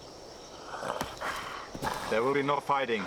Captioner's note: growls